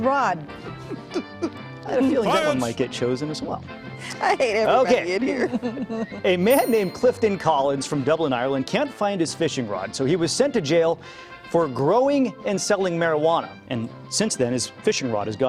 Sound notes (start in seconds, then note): 5.1 laughter